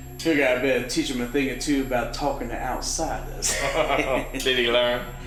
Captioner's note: laughter